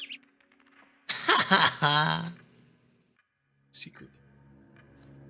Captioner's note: laughs